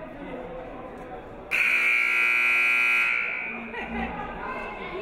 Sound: buzzer buzzes

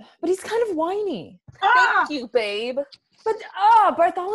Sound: victorious shout

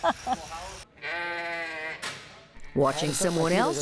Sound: sheep bleating

